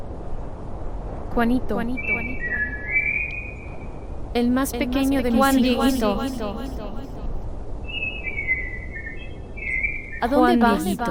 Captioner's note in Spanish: Voz - Virgen María